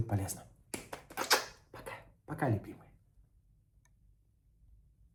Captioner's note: kissing sounds